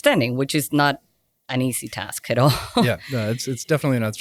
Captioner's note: laughs